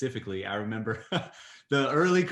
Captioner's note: laughs